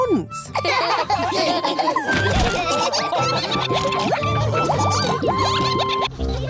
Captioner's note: all laughing